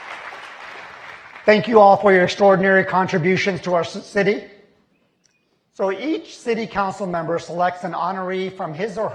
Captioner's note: applause